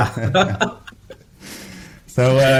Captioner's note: laugh